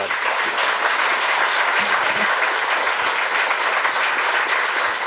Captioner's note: applause